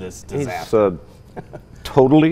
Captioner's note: laughing